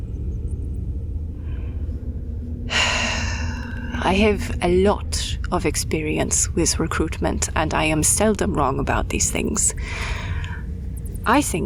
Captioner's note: sigh